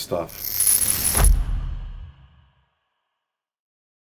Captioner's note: electric sound effect